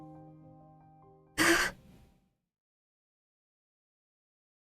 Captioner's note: ROSE gasps